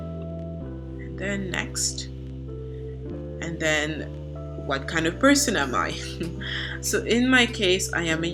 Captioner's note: chuckle